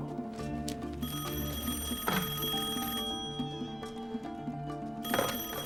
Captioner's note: rings